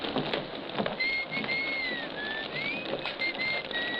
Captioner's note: whistling